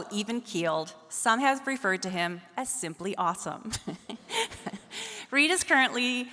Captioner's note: laughs